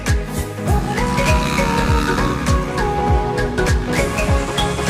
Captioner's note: motorbike engine in the background